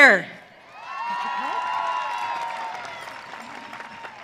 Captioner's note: audience cheering